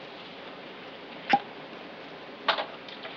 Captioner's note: cork pops